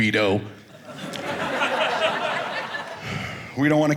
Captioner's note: audience laughing